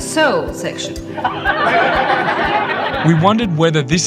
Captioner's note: audience laughing